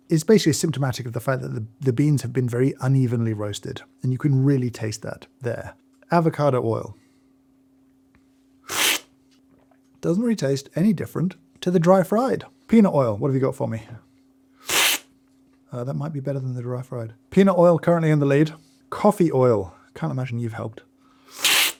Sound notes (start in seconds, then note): 8.7 slurping; 14.7 slurping